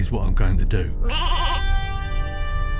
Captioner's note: sheep bleats